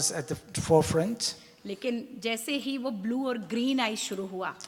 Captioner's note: speaks foreign language